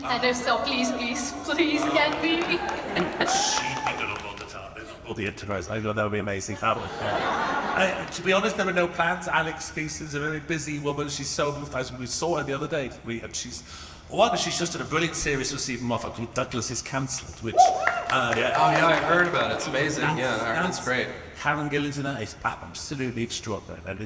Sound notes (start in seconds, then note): 3.2 laughs; 6.5 audience laughs; 17.5 audience cheers